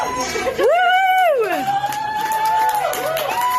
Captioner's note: staff cheering; staff clapping